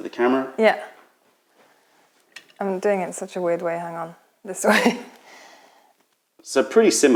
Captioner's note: laughter